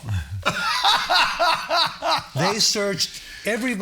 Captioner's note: laughing